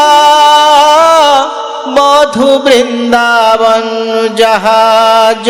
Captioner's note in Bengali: চিৎকার করা